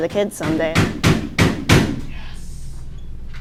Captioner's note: thumping